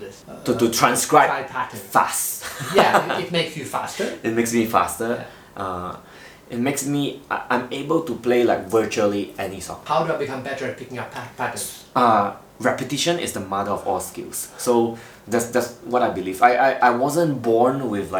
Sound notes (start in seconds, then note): 2.2 laughing